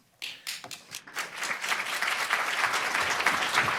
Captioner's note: audience clapping